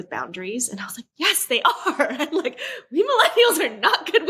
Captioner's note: laughs